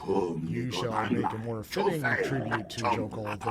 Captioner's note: speaking foreign language